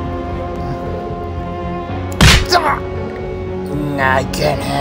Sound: smack down sound

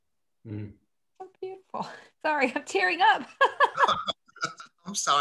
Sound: she laughs

